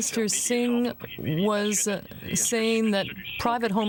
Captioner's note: speaking french